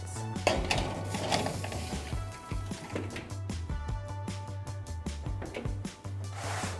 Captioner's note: upbeat contemporary music; soft clang and scrape